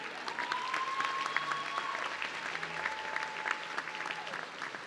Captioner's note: audience cheering